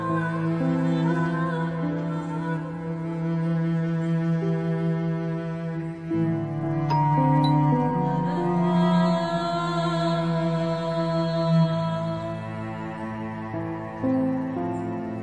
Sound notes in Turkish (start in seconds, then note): 6.8 Zil sesi